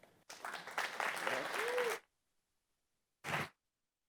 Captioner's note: applause